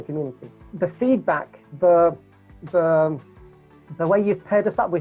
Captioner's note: stutters